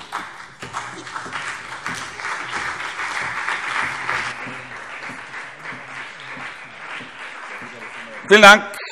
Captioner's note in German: Beifall CDU und vereinzelt BÜNDNIS 90/DIE GRÜNEN